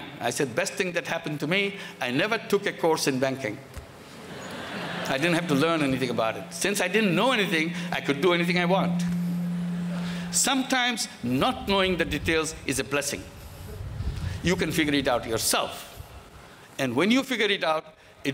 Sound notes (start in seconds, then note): 4.2 laughter